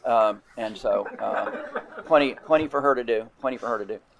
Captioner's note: attendees laughing